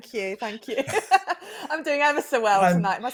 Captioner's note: laughs